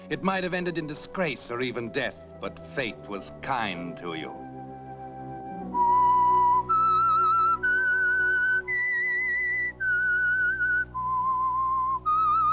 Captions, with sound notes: "It might have ended in disgrace or even death." "But fate was kind to you." [ Whistling ]